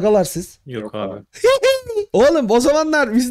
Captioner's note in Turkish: Gülüşmeler